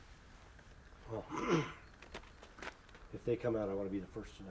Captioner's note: clears throat